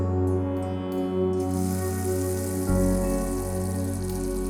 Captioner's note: water splashes